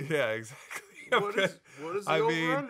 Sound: laughing

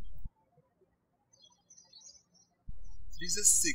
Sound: birds chirping

